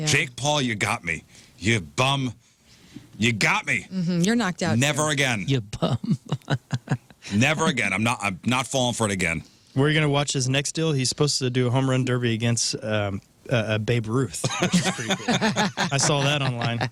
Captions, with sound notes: Jake Paul, you got me. You bum, you got me. You're knocked out. Never again. You bum. (Laughing) Never again, I'm not falling for it again. Where you gonna watch his next deal? He's supposed to do a home run derby against Babe Ruth. (Laughing) I saw that online.